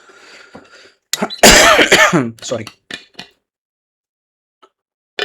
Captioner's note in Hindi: खांसने की आवाज़; गला साफ़ करने की आवाज़